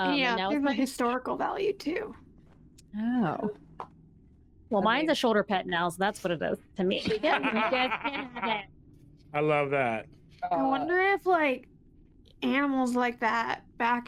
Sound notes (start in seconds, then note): 7.0 laughter